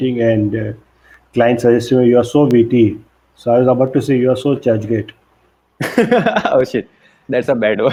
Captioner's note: laughs